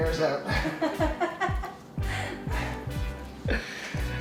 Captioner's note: laughing